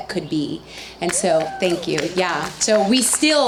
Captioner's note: audience cheers